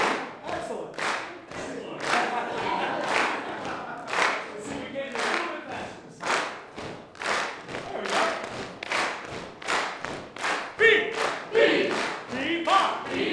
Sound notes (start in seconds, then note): 1.6 laughter; 8.7 rhythm of clapping and leg patting increases; 11.0 singing